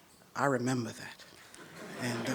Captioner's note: laughter